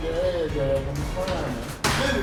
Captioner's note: slam